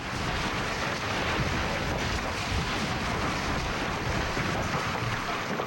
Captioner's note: ceiling collapsing